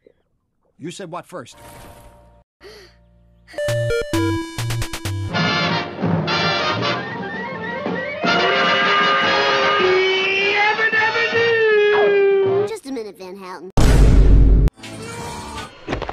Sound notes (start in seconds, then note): 13.8 boom